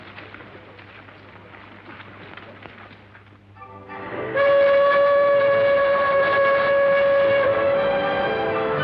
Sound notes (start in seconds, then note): 4.2 train whistle